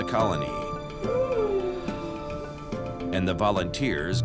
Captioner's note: yawns